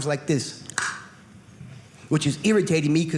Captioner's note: click